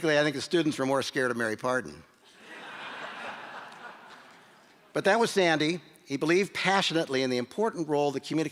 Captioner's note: laughter